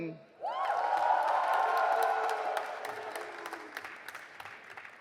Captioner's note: audience applauding